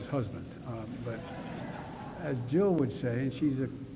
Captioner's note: laughter